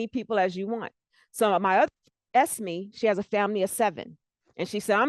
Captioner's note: breaking voice